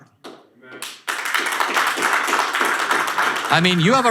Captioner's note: audience applause